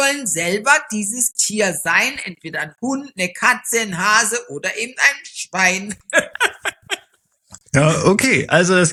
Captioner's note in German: gelächter